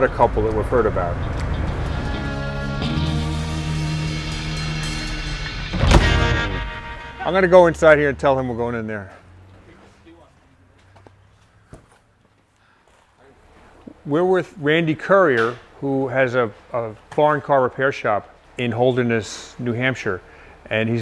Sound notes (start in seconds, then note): 5.5 door closes